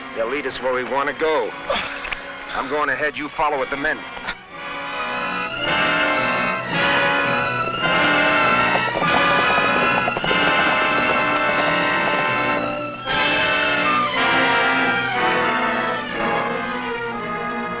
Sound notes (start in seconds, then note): 4.6 tense music; 9.4 horse hooves pattering; 15.0 tense music